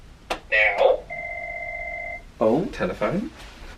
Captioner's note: telephone rings